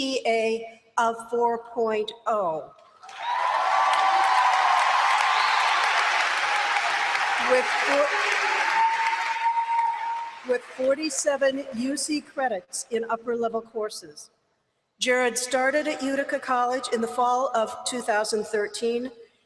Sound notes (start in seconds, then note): 3.0 applause